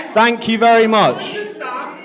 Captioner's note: audience Shouting